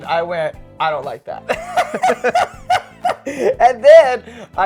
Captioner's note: both laughing